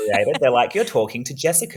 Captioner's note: laughter